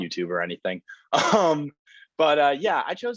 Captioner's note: laughs